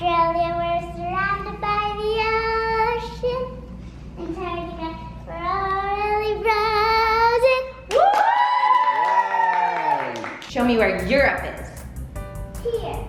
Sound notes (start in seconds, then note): 7.8 family cheers and claps